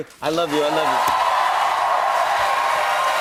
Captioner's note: cheers and applause